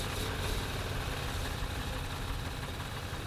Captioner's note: car starting